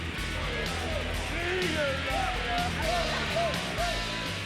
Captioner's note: stags shouting